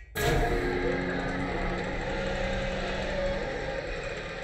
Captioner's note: beeping and grinding